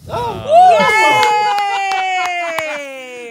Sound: cheering

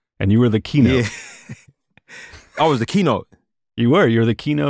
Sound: laughter

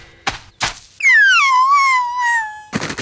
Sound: whimpering

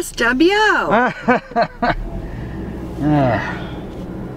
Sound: laughter

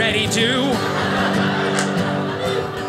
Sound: audience laughing

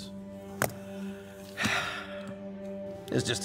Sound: sighs heavily

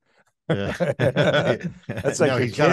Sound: both laughing

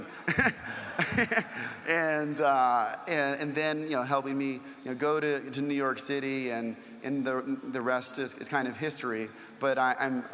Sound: laugh

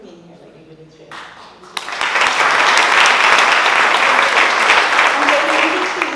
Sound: applause

